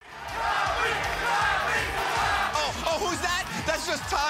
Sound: crowd

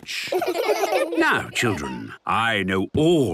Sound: laughter

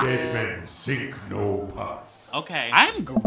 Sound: game audio

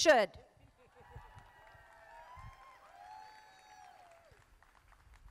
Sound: crowd applauding

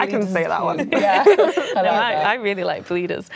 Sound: laughing

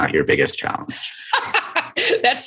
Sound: laughter

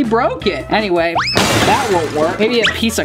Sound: smashing

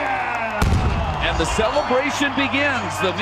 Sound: cannon fires

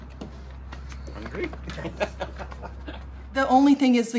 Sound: laughter

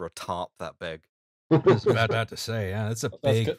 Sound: laughter

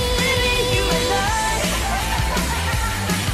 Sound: laughing

